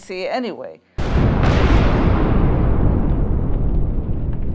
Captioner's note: explosion